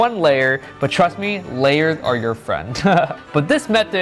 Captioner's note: chuckles